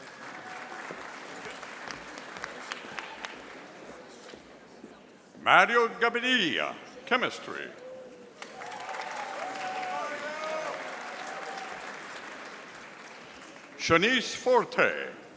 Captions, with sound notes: (audience applauding) Mario Gabinia, Chemistry. (audience applauding) Shanice Forte,